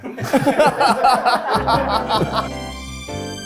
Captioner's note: everyone laughs; ambient music